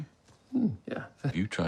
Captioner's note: Tom hums